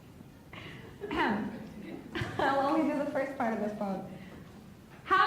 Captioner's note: laughs; clears throat